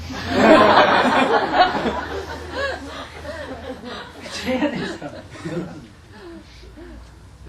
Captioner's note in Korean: 청중 웃음